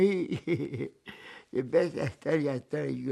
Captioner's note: laughing